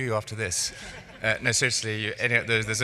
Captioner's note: laughing